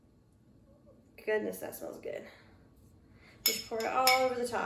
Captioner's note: soft clanking sound comes from the spoon hitting the bowl